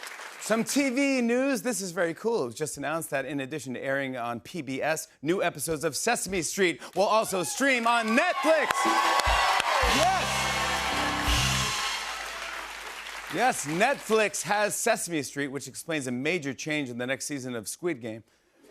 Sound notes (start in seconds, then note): 8.8 cheers and applause